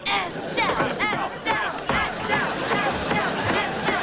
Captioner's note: all chanting